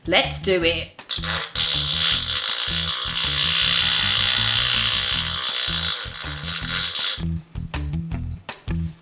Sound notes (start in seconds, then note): 1.1 farts